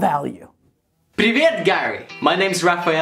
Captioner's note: speaking foreign language